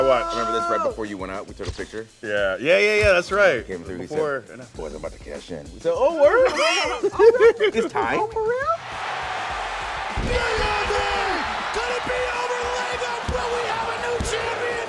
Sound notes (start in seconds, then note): 6.5 laugh